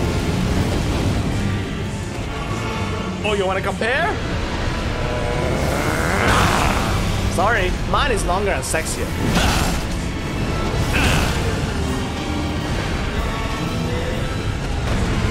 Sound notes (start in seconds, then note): 9.2 attack grunt; 10.8 second grunt